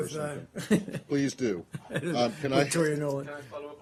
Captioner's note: laughter